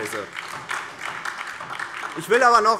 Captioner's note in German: Beifall DIE LINKE und SPD